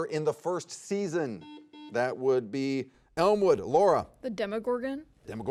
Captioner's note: buzzer dings